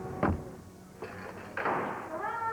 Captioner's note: door shuts